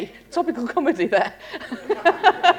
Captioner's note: laughter